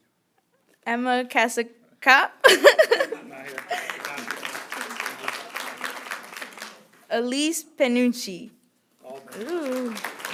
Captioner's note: applause; applause